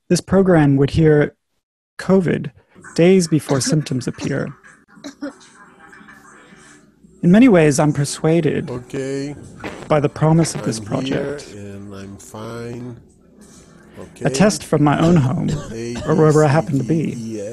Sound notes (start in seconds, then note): 8.7 coughing